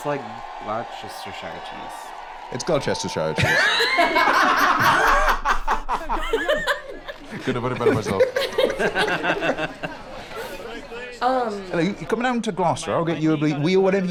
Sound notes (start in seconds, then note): 4.9 others laughing; 9.3 laugh